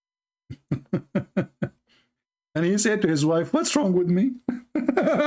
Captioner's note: Ketawa; Ketawa